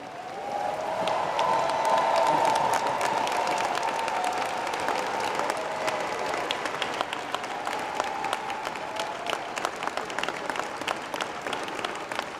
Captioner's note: applause